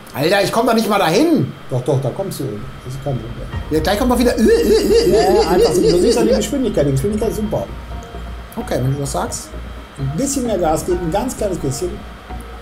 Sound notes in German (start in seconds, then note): 4.8 Er imitiert den Alarm